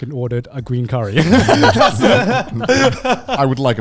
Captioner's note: laughs quickly